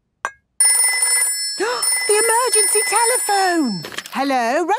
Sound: phone ringing, gasp

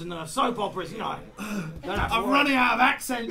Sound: sighs

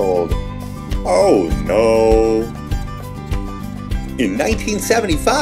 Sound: in low deep voice

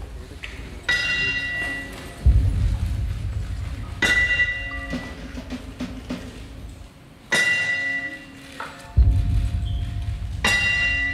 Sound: boxing bell ring

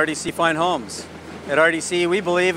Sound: machine buzzing distantly

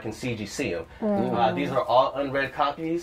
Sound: sounds of agreement

